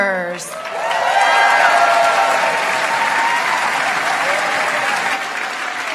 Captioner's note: applause